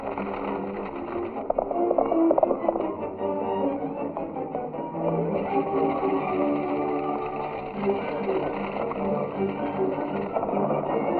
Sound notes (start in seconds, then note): 0.0 horse galloping